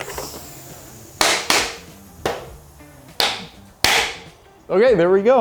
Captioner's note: air popping